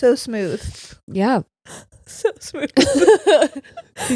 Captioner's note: laughs